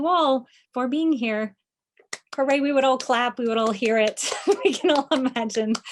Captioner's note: clapping